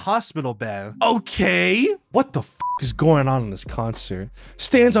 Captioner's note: beeps